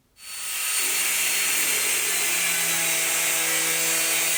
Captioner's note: grinding sound